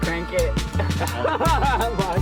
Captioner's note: laughter